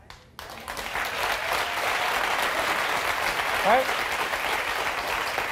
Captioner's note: audience applauding